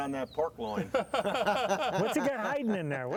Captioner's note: laughing